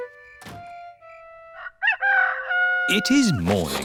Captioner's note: rooster crowing